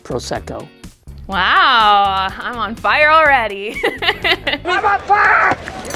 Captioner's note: laughing